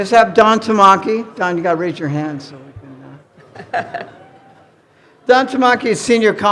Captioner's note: chuckles